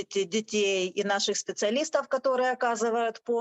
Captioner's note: speaking Ukrainian